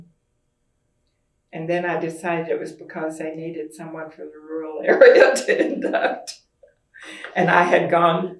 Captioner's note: laughs